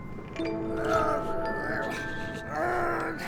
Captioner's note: constipated noises